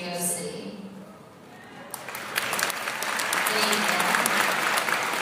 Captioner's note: applause